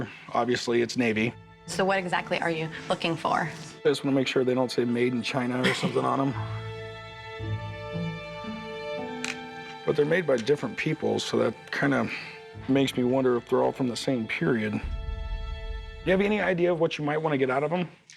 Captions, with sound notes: Obviously it's Navy. So what exactly are you looking for? I wanna make sure they don't say -"Made in China" or something. -[chuckles] But they're made by different people, so that kinda makes me wonder if they're all from the same period. Do you have any idea of what you might wanna get out of them?